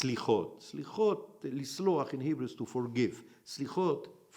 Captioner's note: in Hebrew